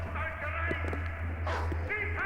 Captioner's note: dog barking